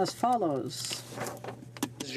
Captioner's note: speaking French